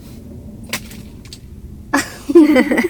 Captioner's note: sound of falling; laughter together